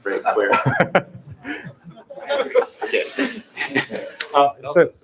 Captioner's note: laughter